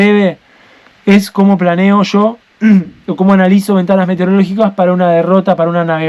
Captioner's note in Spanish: carraspeo